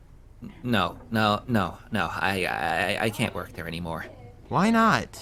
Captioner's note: stammering